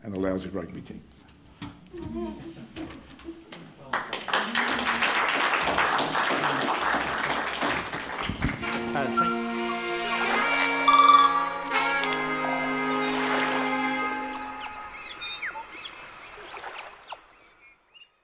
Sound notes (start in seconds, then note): 3.8 applauding; 8.6 quirky music; 13.6 birds tweeting